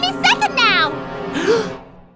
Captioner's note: gasps